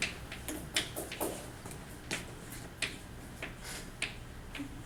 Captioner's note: chalk clicking on board